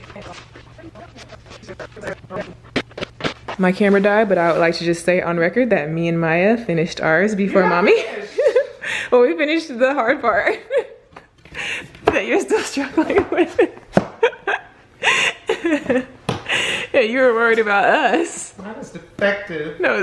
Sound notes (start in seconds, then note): 7.5 laughs; 14.9 laughs